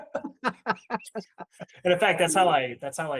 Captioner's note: laughing